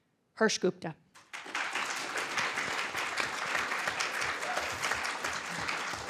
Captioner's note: applause